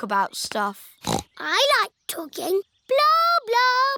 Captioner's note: snorts